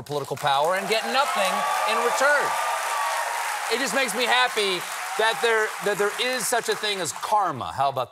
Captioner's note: applause